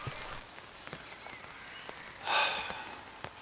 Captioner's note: rain and wind in the background